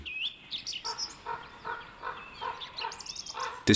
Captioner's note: raven squawking